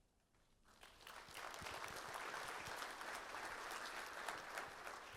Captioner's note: applause